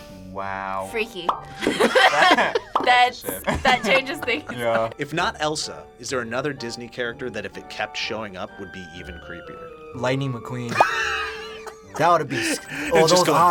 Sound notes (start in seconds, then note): 1.6 group laughs; 10.7 React laughs